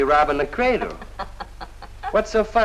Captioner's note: Kitty laugthing